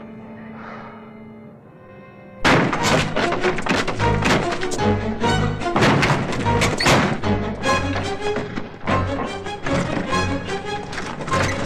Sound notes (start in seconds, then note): 2.4 loudly crashes; 3.7 intense orchestral music; 5.7 loudly crashing; 7.7 intense orchestral music